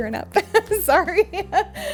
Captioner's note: woman laughing